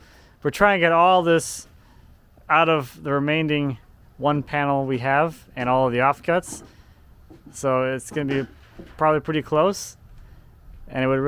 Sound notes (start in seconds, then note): none